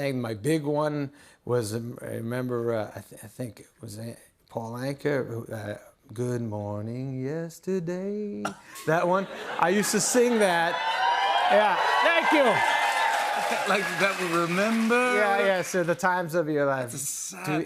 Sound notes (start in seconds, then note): 9.2 cheering